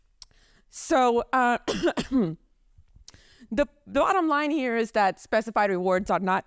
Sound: coughs

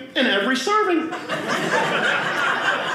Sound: audience laughing

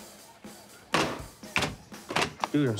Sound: upbeat music; thudding

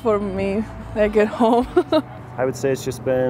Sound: laughs

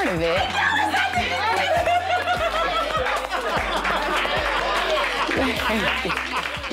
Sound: laughing and applause

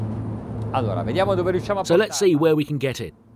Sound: speaking in foreign language

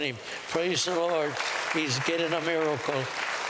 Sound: applause

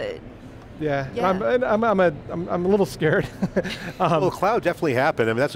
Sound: laughs

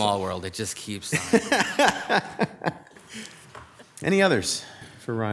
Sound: laughs

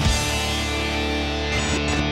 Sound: tv static

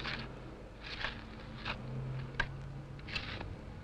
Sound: shovels scrape

